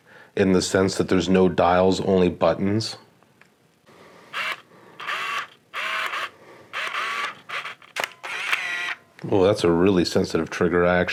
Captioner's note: whirring noise